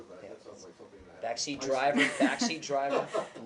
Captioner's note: laughter